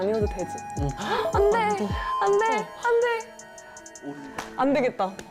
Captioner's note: unfortunately, the bell marking the end of 10 minutes rings